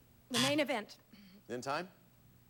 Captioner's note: buzzer sounds